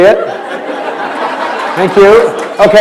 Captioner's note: laughter